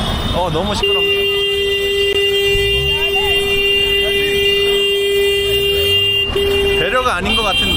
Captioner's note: non-stop honking